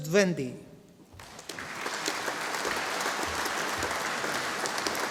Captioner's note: audience applauding